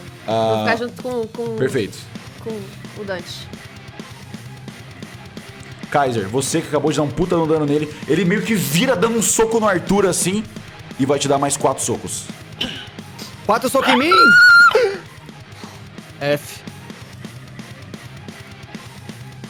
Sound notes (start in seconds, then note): 13.8 thin scream